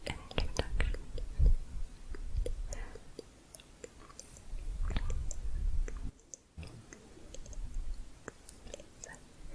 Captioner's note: tongue clicking